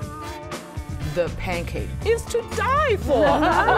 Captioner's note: laughs